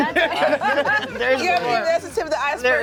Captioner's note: laugh